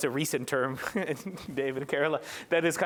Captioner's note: laughter